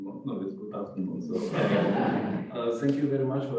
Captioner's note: laughter